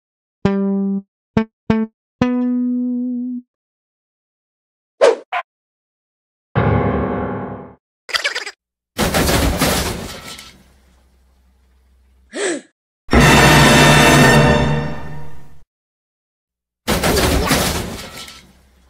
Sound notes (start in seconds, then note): 9.0 crash!; 12.3 gasp!